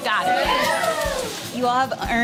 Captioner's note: team cheering